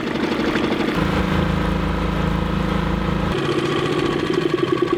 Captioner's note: engine splutters